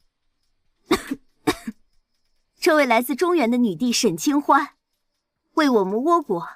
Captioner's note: cough cough